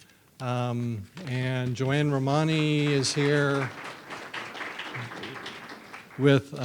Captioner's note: audience applauds